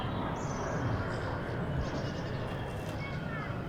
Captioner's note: birds chirping